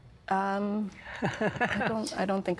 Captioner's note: laughing